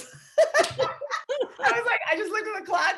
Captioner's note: laughing